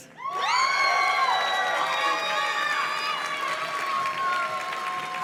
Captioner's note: audience cheers and claps